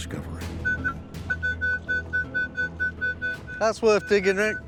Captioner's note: beeping